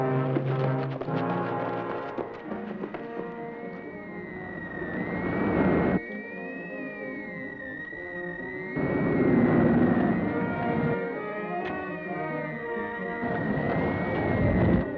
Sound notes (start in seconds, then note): 0.1 suspenseful music; 4.9 electronics whirring